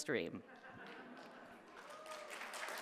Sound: audience applauding; audience member laughing

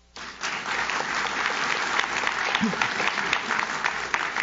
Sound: audience claps

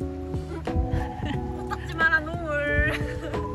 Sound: laughs

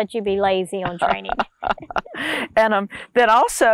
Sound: laughing

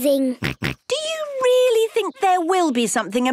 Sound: snorts

